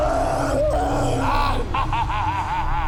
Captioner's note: evil laugh